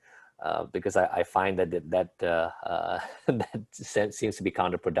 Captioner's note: laughing